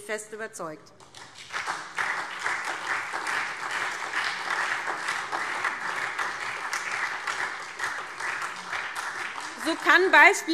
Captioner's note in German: Beifall SPD